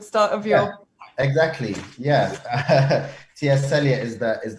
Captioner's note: laughs